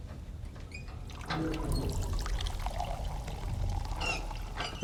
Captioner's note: pouring sound